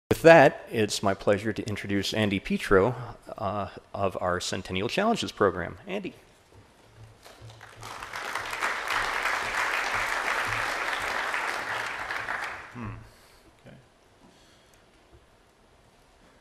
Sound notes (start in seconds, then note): 7.2 applause; 14.8 silence